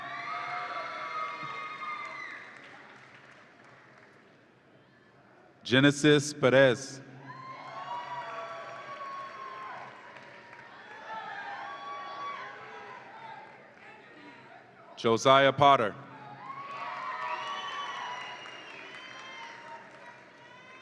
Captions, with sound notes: (audience applauds and cheers) Genesis Perez. (audience applauds and cheers) Josiah Potter. (audience applauds and cheers)